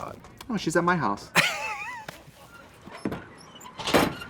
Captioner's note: Katya laughs